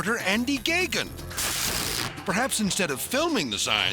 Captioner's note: electricity zapping